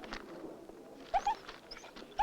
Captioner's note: dog whining